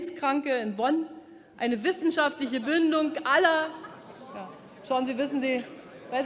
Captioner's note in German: Lachen bei Abgeordneten der SPD und der LINKEN